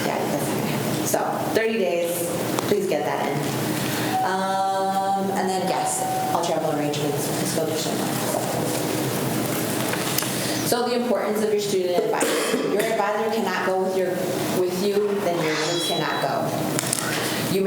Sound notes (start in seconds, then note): 9.0 faintly speaking